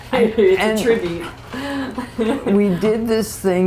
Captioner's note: laughter